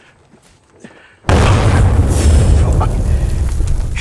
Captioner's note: explosion rumbling